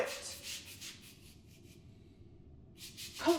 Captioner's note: sound of brushing on the floor